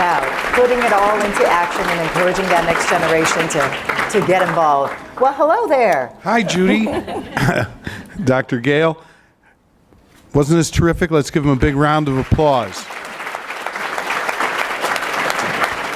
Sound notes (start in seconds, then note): 12.9 applause